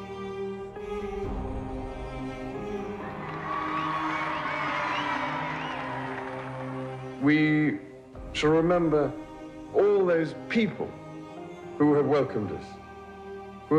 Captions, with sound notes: (crowd cheering) - We shall remember all those people who have welcomed us,